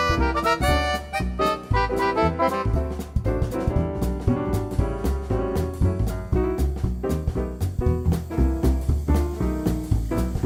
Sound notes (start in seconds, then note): 8.3 fizz